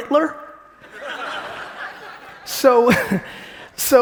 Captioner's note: audience laughing